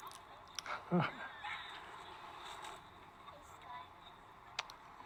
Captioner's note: Mr. Fletch chuckling